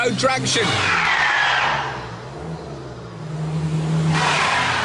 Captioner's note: tires screech